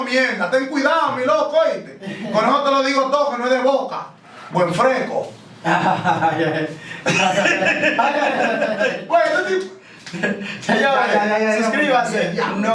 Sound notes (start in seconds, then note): 5.6 laughs